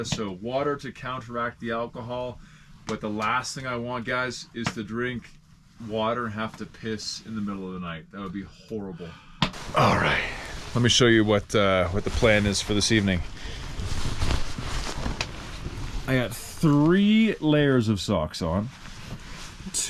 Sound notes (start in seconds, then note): none